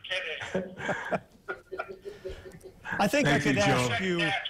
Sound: laughter

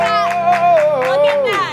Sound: exclaiming

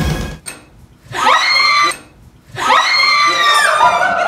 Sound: scream

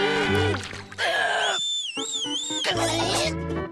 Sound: whistling

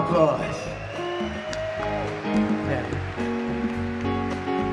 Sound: audience cheer and clap

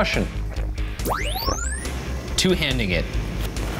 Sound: electronic whoosh; gulps

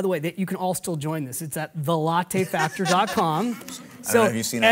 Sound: laughs

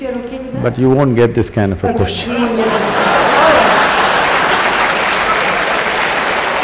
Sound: laughter/Applause

